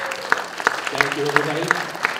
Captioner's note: applause